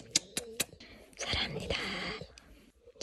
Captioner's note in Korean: 소근